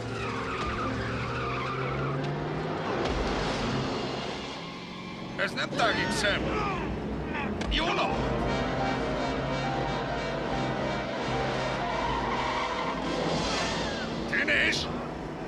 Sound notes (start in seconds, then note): 0.2 tires screeching; 5.8 screams